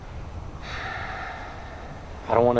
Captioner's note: Ramon sighing